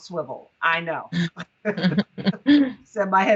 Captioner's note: crowd laughing